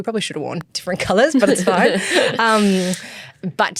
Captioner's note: chuckles